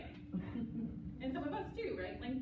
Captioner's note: laughter